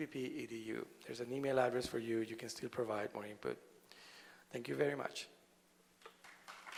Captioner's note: applause